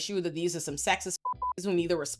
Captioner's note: beep